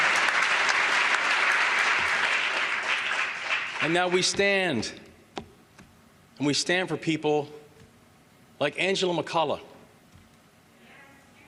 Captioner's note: applause